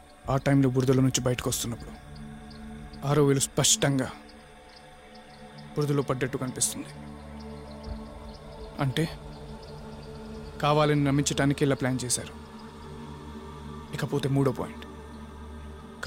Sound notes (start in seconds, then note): none